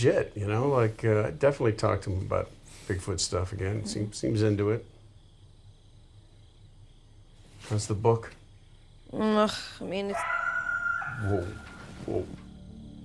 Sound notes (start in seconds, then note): 10.1 animal screams